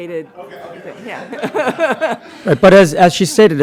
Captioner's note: laughter